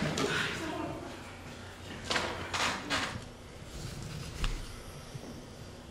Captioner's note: murmurs; sigh